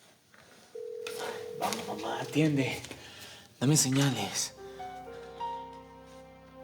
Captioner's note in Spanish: El otro celular timbra